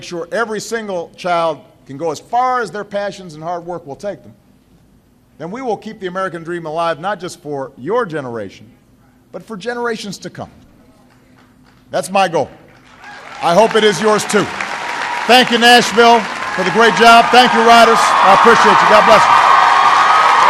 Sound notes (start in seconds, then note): 19.6 applause